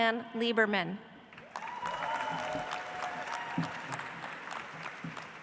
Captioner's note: audience applauds